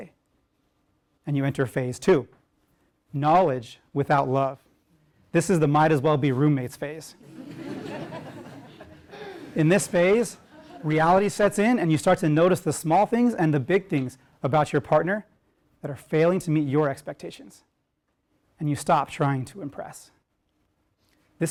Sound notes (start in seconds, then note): 7.2 laugh